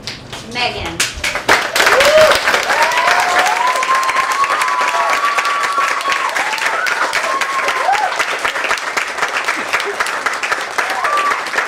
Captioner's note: applause